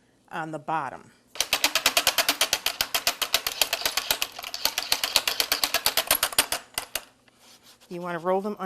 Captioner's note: machine cranking